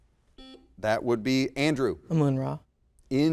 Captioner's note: buzzer beeps